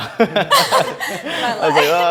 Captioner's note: giggles; laughs